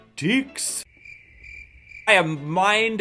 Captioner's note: crickets chirping